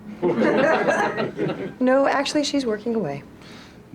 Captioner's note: laughter